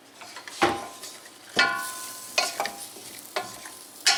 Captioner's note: sizzling